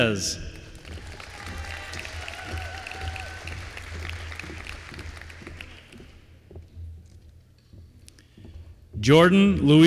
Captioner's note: applause